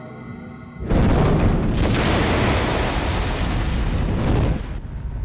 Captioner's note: bangs, explodes